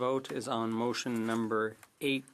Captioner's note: speaking French